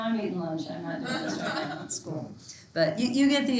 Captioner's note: students laughter drowns out other speaker